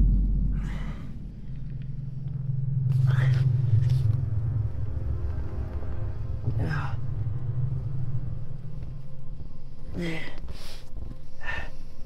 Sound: muffled breathing

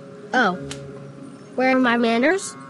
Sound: smack

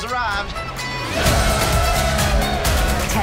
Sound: cheers

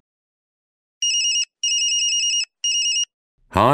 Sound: cell phone rings

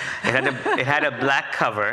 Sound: audience laughs

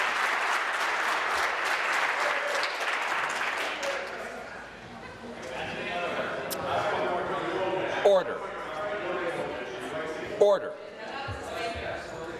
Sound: applause

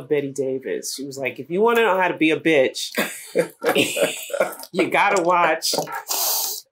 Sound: laughter

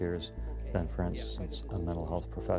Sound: voiceover

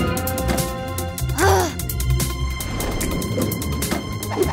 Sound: Lady Diva grunts

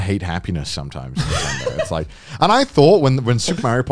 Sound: laughing

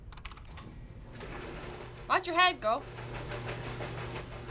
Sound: dryer rumbling

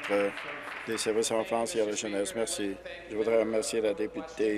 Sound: applause

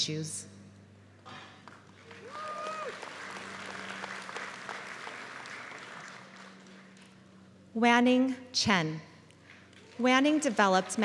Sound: applause

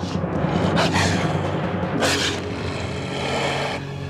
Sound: growling

